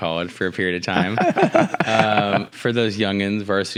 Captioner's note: laugh